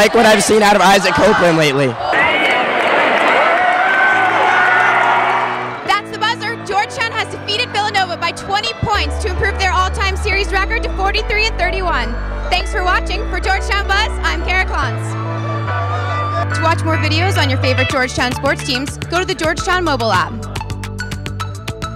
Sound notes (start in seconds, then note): 3.0 crowd cheering